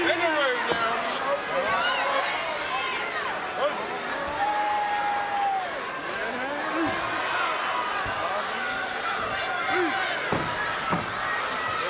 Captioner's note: applause